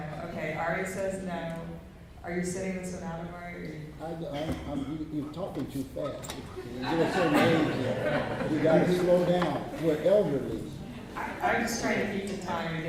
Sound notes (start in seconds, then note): 6.6 laughter